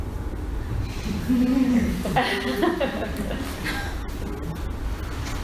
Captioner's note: audience laughs